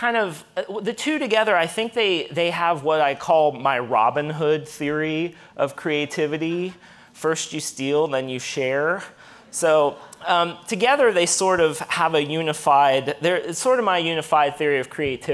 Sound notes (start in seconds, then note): none